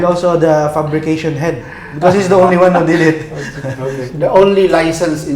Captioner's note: laughs